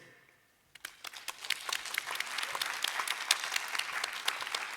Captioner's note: applause